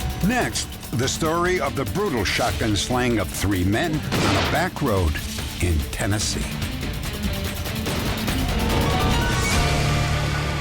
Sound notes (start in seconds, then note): 7.5 gunshot